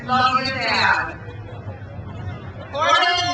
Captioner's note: crowd cheers